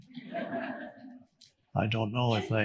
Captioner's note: audience laughing